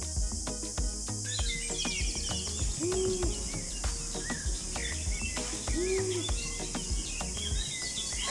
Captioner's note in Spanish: Pájaros graznando